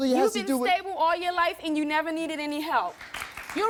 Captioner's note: audience applauding